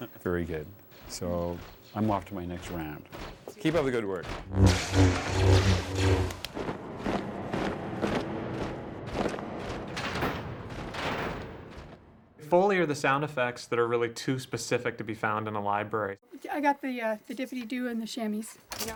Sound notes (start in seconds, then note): 4.4 lasers Blasting; 4.4 Lightsabre Humming; 6.5 heavy Footsteps in Cadence